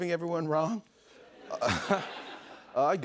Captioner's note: laughs